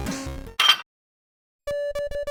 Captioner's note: metallic clank